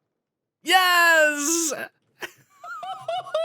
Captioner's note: laughs